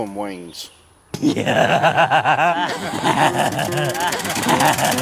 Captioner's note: roaring laughter